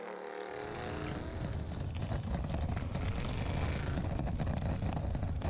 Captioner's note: engine revving